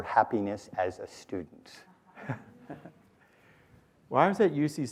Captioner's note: laughter